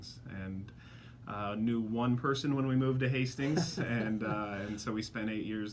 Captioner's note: laughs